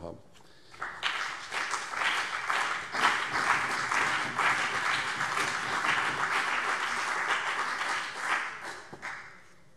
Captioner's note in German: Beifall CDU und BÜNDNIS 90/DIE GRÜNEN